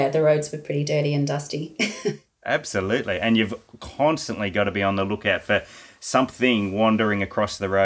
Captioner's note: laughing